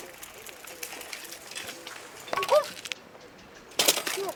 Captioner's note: falling bicycle sound